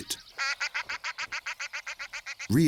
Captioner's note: loud quacking